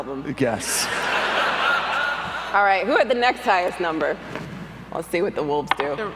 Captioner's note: laugher